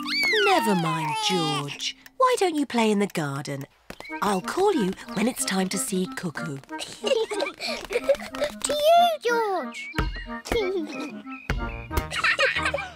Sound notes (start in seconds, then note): 6.8 both laugh